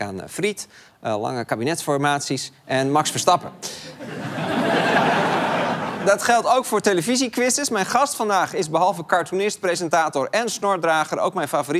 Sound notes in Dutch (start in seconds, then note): 3.9 gelach